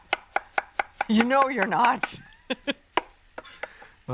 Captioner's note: chuckles